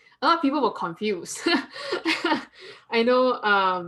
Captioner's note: chuckle